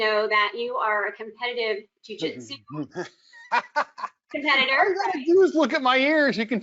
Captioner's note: laughing